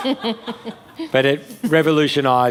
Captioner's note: laughter